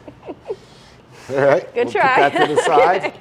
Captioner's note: laughs